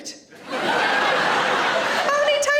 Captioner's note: audience laughing